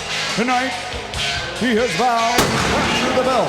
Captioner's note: fireworks popping